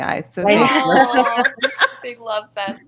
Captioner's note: all laughing